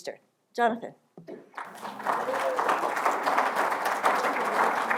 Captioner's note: applause